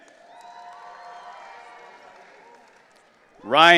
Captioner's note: audience cheering